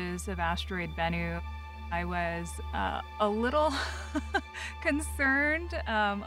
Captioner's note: chuckling